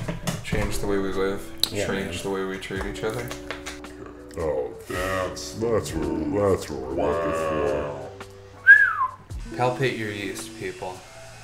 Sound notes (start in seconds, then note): 4.0 deep voices